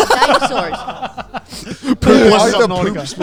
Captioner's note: everyone laughing